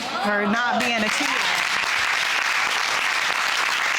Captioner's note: all clapping